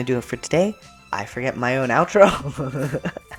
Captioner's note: laughter